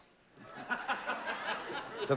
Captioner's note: laughter